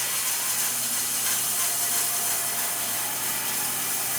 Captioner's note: saw buzzing